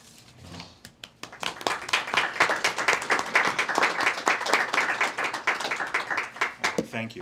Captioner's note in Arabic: تصفيق